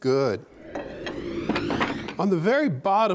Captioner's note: air whooshes